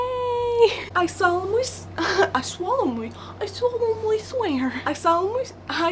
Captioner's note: laughs